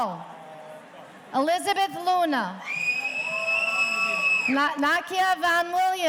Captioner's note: audience cheering